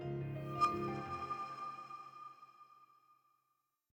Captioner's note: badge hums